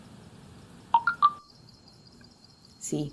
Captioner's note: message alert tone